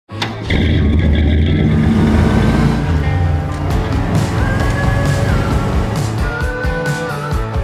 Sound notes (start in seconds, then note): 0.2 exhaust bellowing; 2.0 engine revving; 4.8 upbeat music